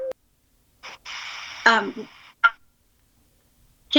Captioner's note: static noise